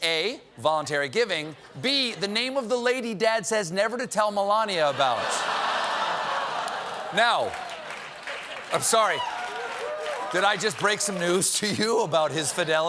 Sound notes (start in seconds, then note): 4.8 laughter